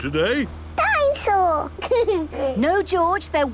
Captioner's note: giggles